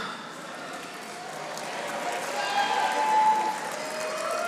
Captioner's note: audience applauding